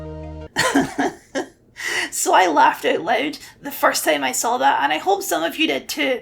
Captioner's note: chuckle